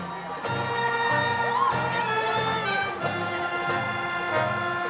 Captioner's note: crowd cheering